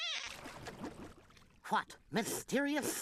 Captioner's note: water bubbling